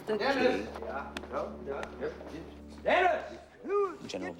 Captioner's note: stammering